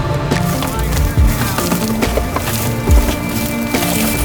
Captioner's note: branches snapping; upbeat instrumental music continues